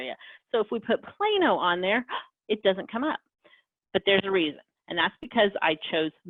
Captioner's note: gasp